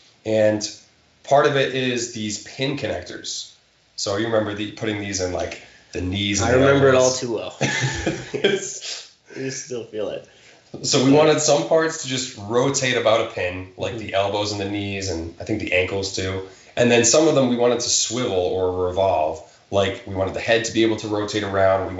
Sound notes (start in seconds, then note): 7.5 chuckling